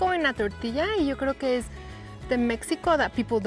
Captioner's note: speaking Spanish